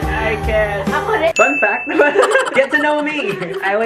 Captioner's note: laughs